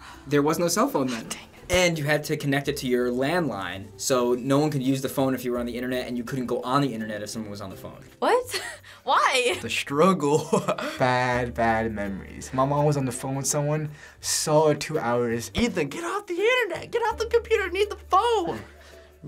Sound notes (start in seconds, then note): 10.3 laughter; 15.5 mimics mom